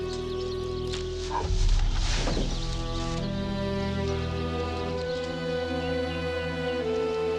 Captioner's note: ground thuds; Eli groans